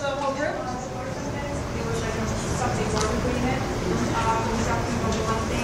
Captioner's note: audience member murmurs